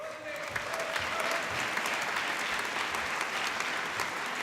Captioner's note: applause